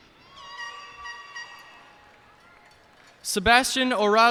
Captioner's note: cheers and applause